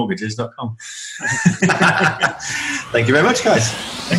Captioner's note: group laughing